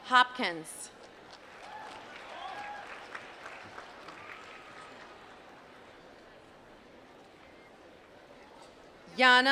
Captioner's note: applause